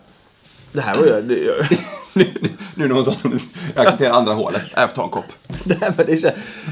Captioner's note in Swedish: skratt